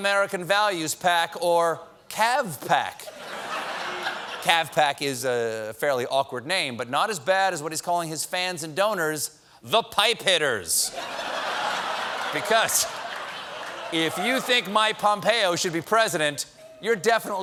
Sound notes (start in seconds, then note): 10.8 laughter